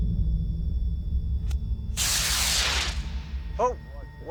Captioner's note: rocket hissing